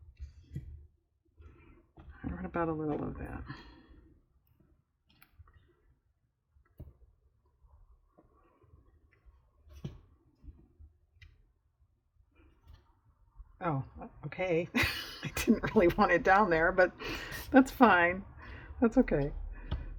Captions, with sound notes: what about a little of that? oh okay (laughs), i didn't really want it down there, but that's fine, that's okay